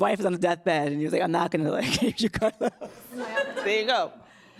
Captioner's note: laughs